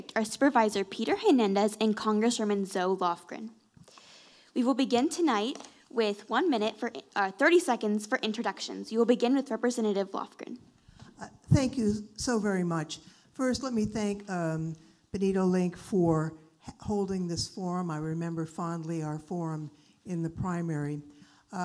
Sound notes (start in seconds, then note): none